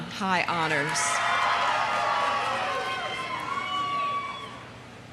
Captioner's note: audience cheering